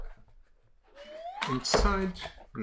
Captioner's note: whistle sound effect